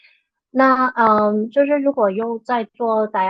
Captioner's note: speaking chinese